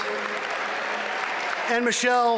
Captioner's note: audience cheer and applaud